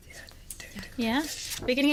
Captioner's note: whispering